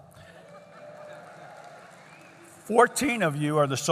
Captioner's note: laughter